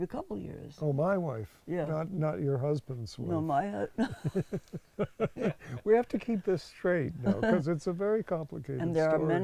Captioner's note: laughs